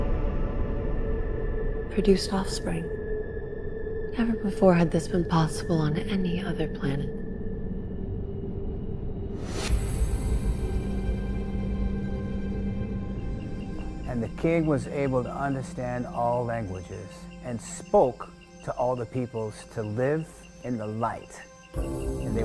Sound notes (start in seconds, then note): 9.7 light music; 13.3 cicadas chirping